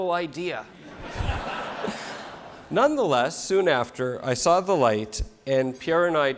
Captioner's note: laugh